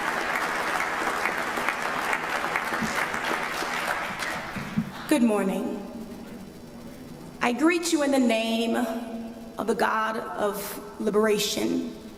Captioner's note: applause